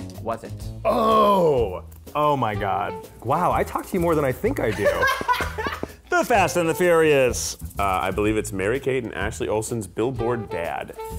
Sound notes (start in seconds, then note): 4.7 laughter